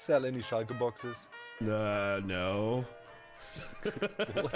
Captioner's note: laughs